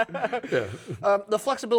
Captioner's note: laughing